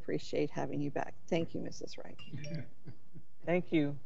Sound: chuckles

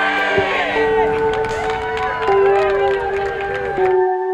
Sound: cheers

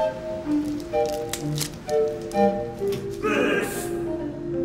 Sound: plastic crinkles

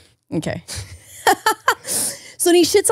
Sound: laughs

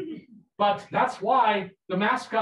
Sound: people laughing

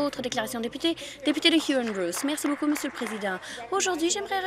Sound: some Applause

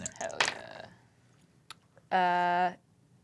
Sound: die clacks

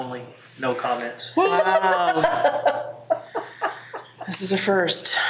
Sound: woman laughing

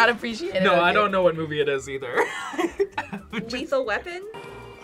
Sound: laughs

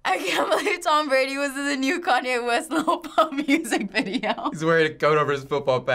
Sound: laughs

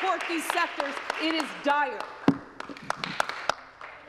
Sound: applause

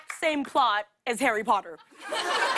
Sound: laughter

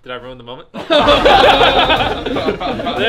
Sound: laughter

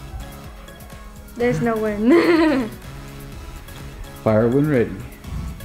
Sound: laughs

